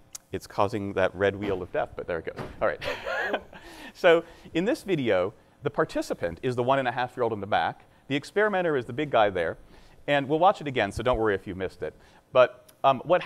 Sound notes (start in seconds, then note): 2.8 laughing